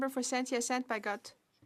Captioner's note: speaking French